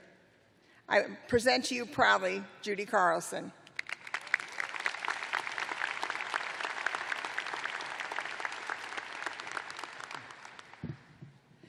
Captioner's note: applause